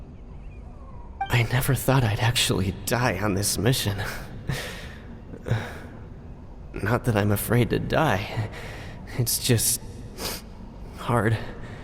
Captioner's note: sigh